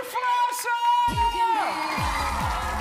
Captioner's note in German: Lauter Jubel